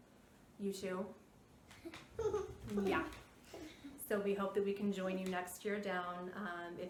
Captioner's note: giggles